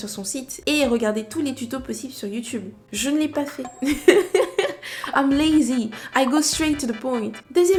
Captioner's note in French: rires